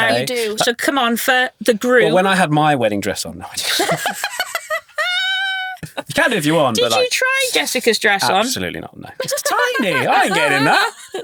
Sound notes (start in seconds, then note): 3.6 laughing